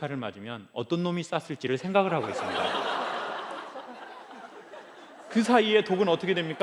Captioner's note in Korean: 웃음